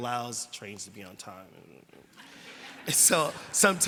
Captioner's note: laughter